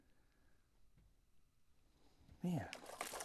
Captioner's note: splash